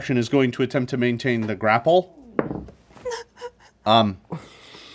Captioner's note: dice thud